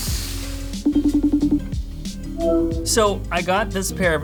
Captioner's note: computer ringing